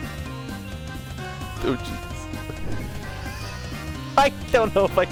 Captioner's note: laughing